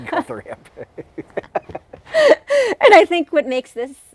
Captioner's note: laughing